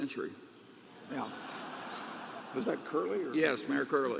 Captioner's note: laughter